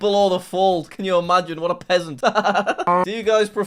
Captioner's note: laughs